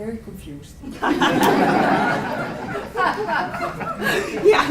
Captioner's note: laughter